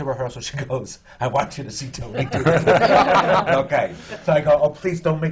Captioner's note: laughter; laughs